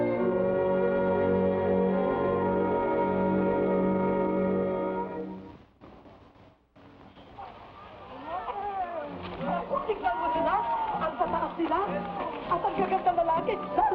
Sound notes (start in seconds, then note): 8.4 people chatter; 10.1 women speaking in Tagalog